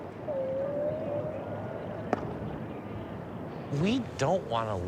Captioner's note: whale calling